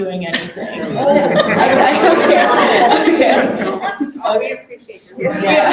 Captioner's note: group laughing